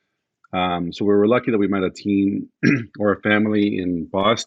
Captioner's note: clears throat